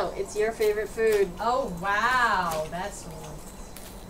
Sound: sarcastic

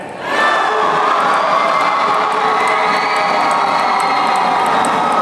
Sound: applause

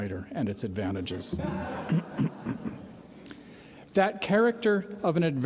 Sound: laughter

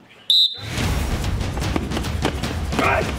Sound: drill instructor blows whistle

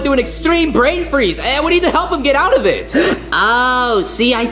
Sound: Yoshi gasping

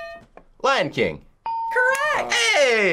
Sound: hitting bell; ding

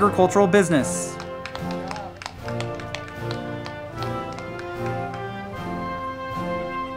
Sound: band music; crowd clapping

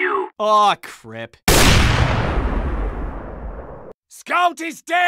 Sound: AWP firing sounds

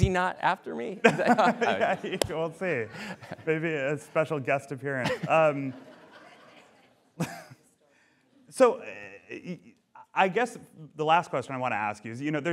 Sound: laughter

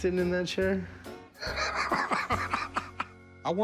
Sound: laughter

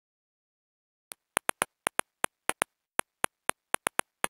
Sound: sound of phone keyboard

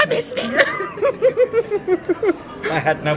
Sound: giggling

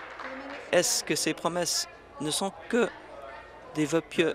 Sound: applause

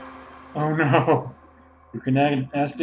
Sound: organ plays C; laughing

